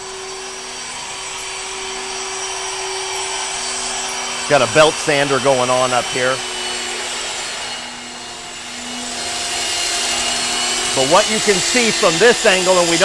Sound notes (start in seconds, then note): 6.8 whirring